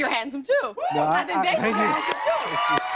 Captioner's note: cheers and applause